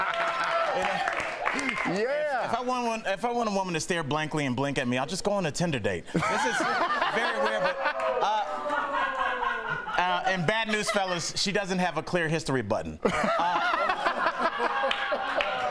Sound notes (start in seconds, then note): 4.4 laughter